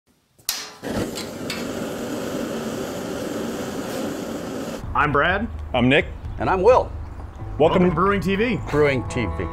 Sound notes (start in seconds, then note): 4.9 propane Burner Flame Sound